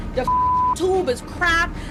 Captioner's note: beep